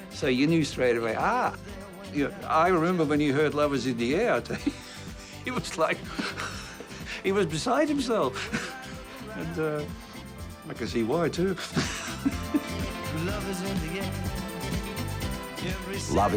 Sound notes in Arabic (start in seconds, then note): 6.0 يتنفس بصعوبة; 15.0 يضحك